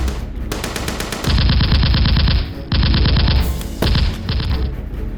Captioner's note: gunfire rattles